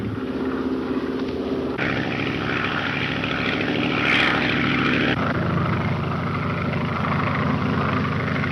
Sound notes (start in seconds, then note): 0.0 engines droning